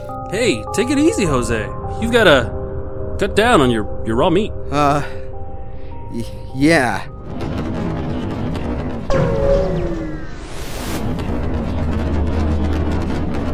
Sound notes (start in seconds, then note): 6.2 sigh